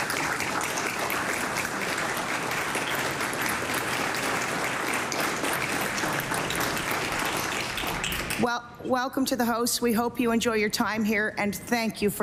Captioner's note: applause